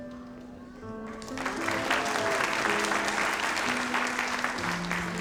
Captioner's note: audience applauds